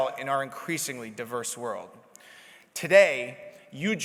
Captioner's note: none